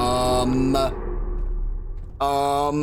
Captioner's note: deep howl